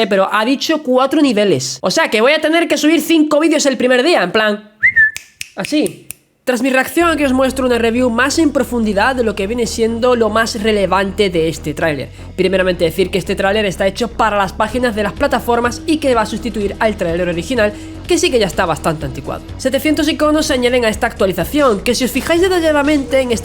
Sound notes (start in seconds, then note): 4.8 whistles